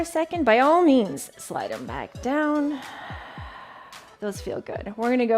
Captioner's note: exhales